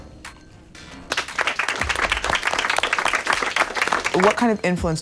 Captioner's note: clapping